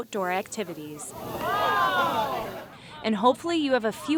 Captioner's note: audience oohing